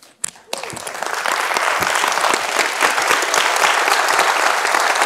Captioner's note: audience applauding